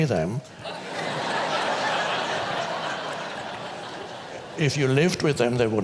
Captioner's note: audience laughs